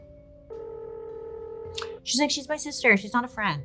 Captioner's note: phone rings